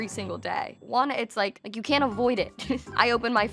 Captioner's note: chuckles